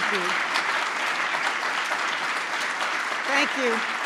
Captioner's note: applause